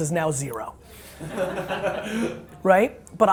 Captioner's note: audience laughs